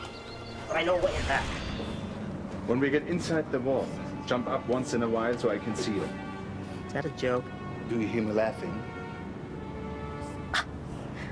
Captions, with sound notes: (ethereal woosh) - I know a way in back. (somber orchestral music) - When we get inside the wall, jump up once in awhile so I can see you. - Is that a joke? - Do you hear me laughing? - Ah, there is no fog inside the wall.